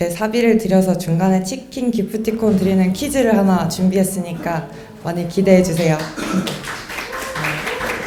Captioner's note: applause